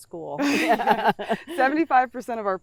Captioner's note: laughs